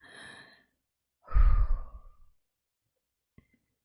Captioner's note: breathes out